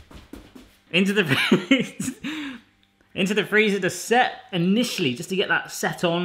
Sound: laughing

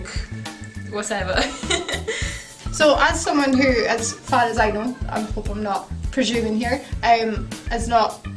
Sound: laughs

